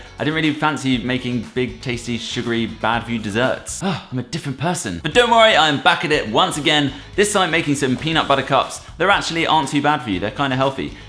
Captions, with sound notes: I didn't really fancy making big, tasty, sugary, 'bad for you' deserts. [Gasp] I'm a different person! But don't worry, I am back at it once again, this time making some peanut butter cups. They actually aren't too bad for you; they're kind of healthy.